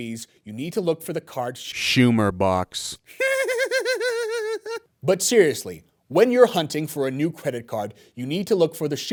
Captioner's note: giggles